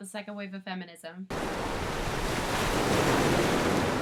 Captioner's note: rainstorm sounds